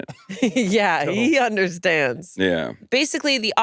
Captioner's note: laughs